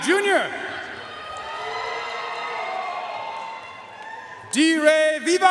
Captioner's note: audience cheering and applauding